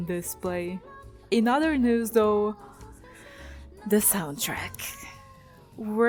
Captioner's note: sigh